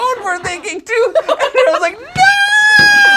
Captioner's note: laughs